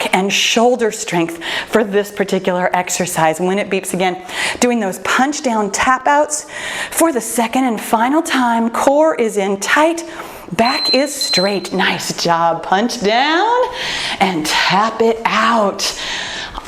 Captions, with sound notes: and shoulder strength for this particular exercise. When it beeps again, doing those Punch Down Tap-Outs for the second and final time core is in tight. (timer beeps) Back is straight. Nice job, punch down and tap it out.